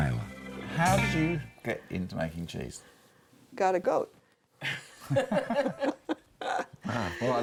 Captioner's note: all laugh